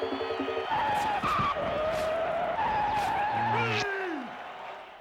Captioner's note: <i> tires screeching</i>